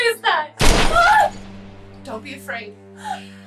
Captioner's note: distant thud; Kathryn yelps